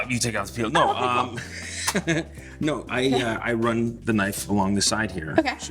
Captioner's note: laughs